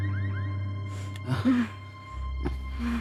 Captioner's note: moaning